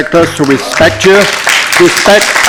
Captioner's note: applause